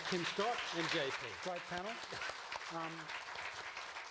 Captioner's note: applause